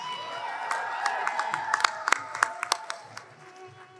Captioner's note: applause